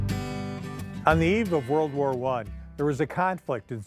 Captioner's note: gentle acoustic guitar music; voiceover